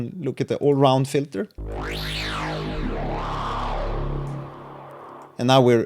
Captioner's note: screaming resonating bass sound